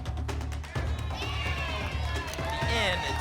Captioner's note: audience shouting letters